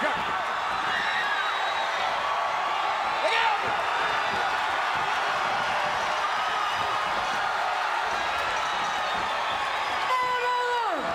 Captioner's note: applause